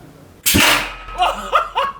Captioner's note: cannon firing; laughing